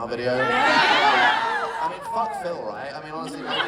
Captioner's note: audience Cheers